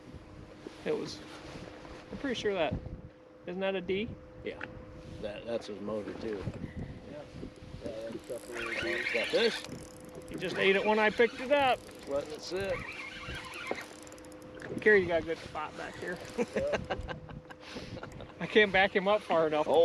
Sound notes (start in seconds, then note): 16.3 laughter